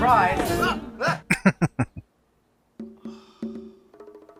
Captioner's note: laughing